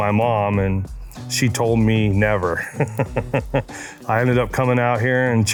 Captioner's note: chuckles